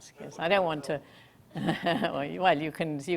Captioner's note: laughs